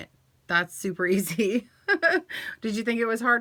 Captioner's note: laughs